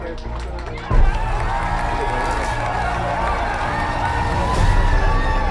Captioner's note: people cheering and clapping